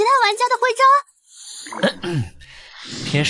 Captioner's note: cough